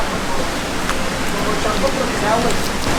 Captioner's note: voices and waterfall sounds